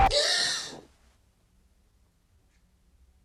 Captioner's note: gasping